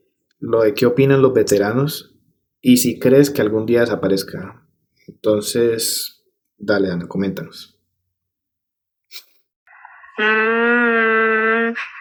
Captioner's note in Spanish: resoplido